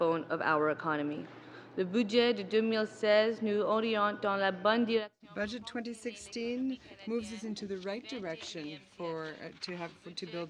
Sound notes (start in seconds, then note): 7.9 speaking French